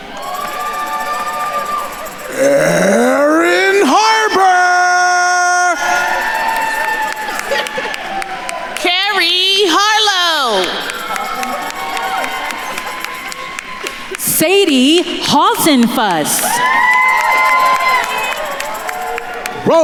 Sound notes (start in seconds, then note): 0.3 attendees cheering and applauding; 6.0 attendees cheering and applauding; 11.1 attendees cheering and applauding; 16.7 attendees cheering and applauding